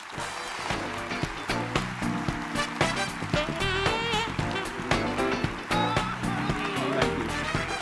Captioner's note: applause and Music